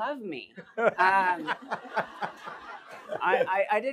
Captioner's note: laughter